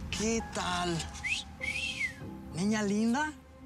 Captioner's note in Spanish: silbidos